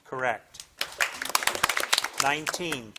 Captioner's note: audience applauding